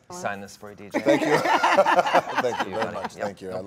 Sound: Gal and Dwayne laughing

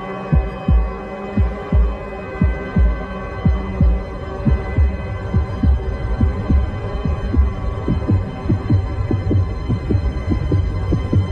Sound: heart beats rapidly

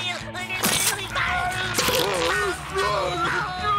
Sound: screaming

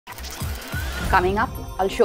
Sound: tech whirring

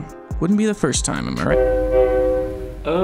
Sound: train honking

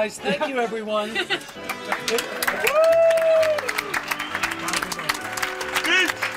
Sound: cheering and applause

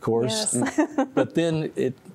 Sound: giggle

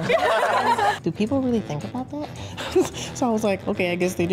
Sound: all laughing; laughing

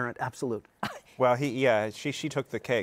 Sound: laughs

